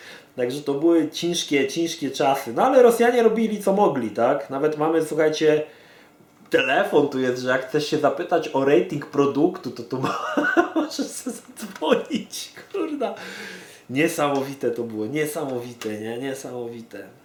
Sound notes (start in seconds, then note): 10.0 bursts out laughing